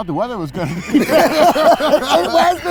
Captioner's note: everyone laughs